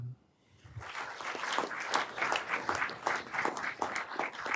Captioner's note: everyone applauding